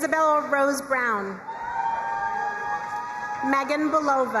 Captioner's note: crowd cheering and applauding